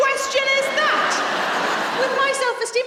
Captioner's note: audience laughing